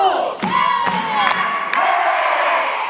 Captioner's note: cheering